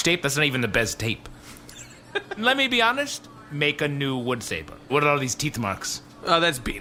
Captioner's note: Pleck laughs